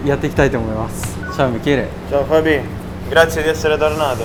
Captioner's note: Italian